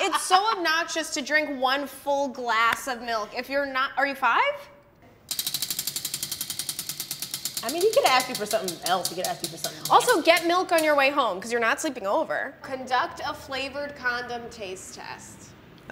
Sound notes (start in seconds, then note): 5.2 wheel clicking